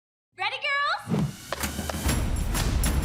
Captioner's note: none